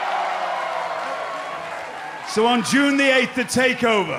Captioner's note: crowd cheering